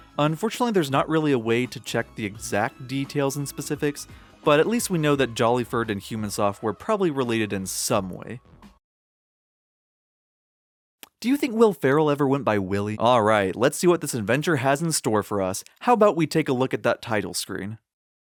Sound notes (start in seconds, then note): 11.0 lip smack